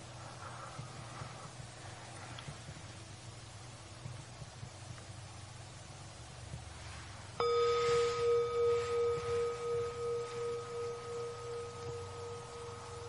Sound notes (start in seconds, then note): 7.4 bell chiming